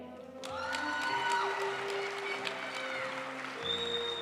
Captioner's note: audience cheering and applauding; graduation music